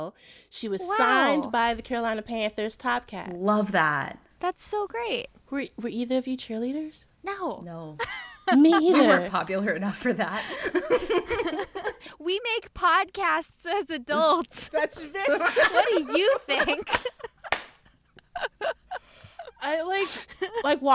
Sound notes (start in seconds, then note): 8.0 laughter; 17.8 laughter